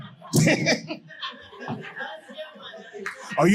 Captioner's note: audience laughing